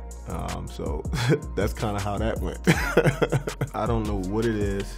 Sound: laugh; laughs

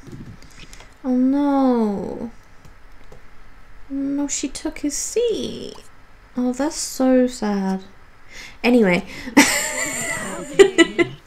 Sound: laughs

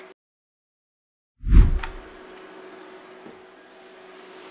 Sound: whooshing

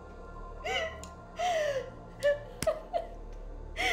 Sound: Kelly sobbing

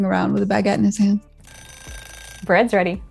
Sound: ringing kitchen timer

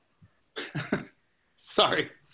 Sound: laughs

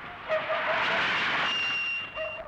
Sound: brakes squeal

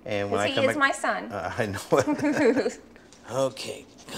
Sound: laughs

